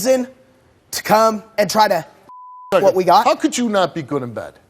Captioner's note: beep